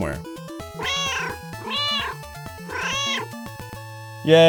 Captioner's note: meow, meow!